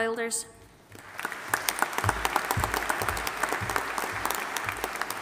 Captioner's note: audience applauding